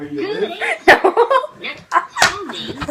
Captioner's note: laughs